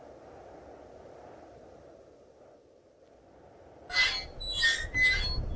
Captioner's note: wind blowing